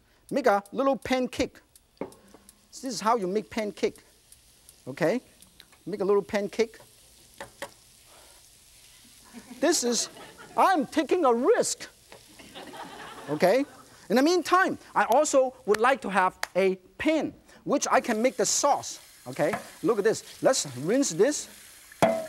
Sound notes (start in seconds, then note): 9.2 audience laughs; 12.3 audience laughs